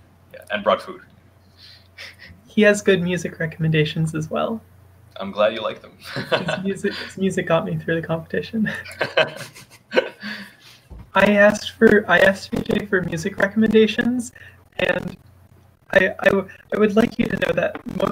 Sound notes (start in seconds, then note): 6.0 laughs; 8.6 people chuckle